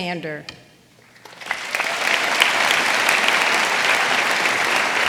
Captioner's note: audience applauding